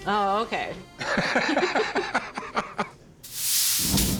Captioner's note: laughter